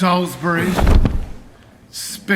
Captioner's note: thud